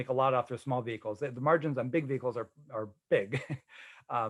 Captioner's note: chuckling